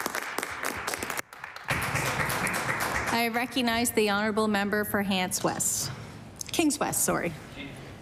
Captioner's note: applause